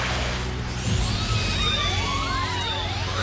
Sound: Latios squeals

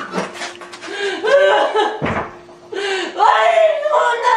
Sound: woman sobbing

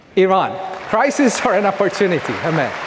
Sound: audience clapping

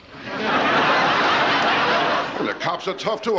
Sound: audience laughing

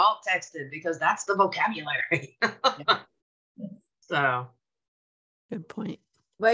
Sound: chuckles

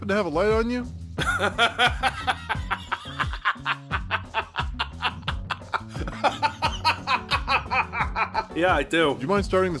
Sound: bursts out laughing like a maniac

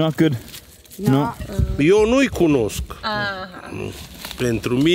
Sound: speaking Romanian

